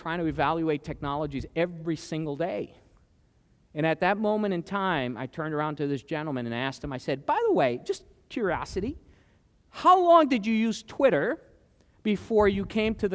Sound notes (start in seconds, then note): none